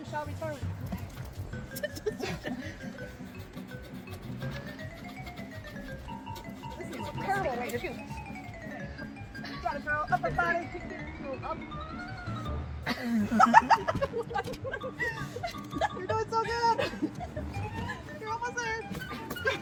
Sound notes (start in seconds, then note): 12.8 even more laughing